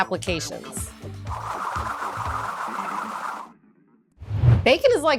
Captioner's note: air whooshes